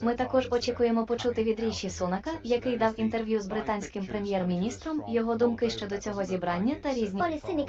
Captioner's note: ukranian Audio; hindi Audio